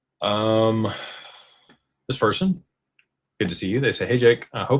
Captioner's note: sighs